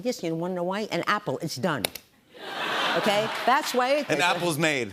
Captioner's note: laughter